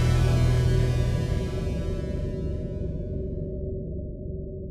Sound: wind whooshes

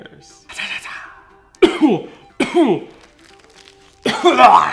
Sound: coughing

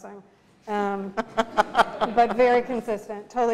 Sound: laughter

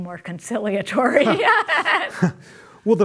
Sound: laughs

